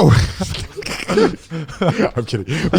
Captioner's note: group laughing